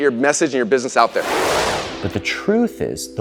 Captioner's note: whooshing